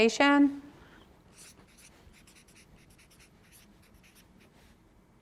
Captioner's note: marker scribbles